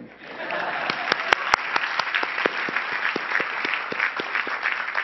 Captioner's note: crowd applauding